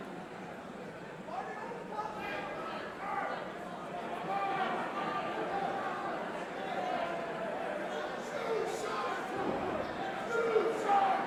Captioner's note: crowd chatter